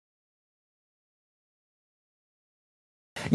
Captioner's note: silence